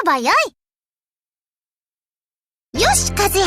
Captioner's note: silence